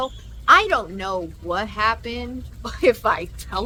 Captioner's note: laughs